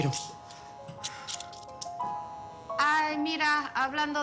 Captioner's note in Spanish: Suena un celular